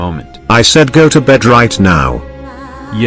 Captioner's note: yelling